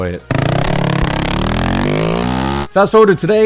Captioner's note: motorcycle engine roaring